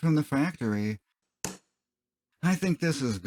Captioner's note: smack